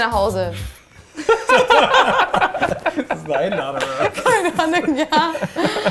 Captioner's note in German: Gelächter im Hintergrund